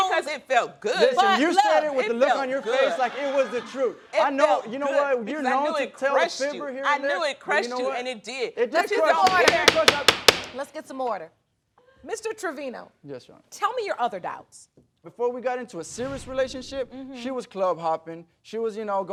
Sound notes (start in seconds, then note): 9.2 gavel banging